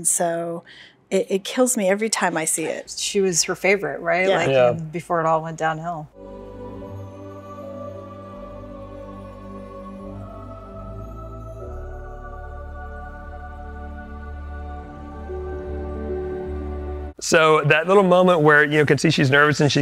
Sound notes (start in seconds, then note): 6.0 gentle music; 6.0 lights tinkle